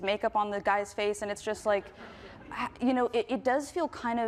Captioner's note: group laughing